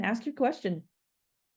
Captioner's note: silent pause